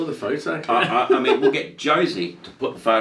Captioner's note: laughing